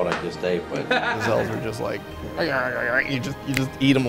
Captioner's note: chomping